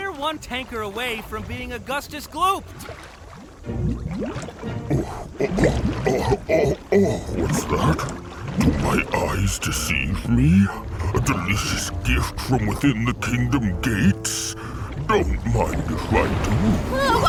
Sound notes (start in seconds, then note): 5.0 groaning